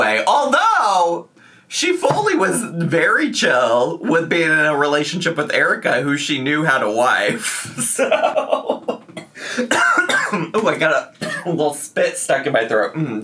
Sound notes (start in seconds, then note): 8.8 laughing and coughing